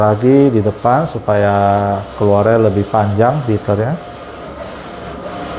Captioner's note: printer machine noise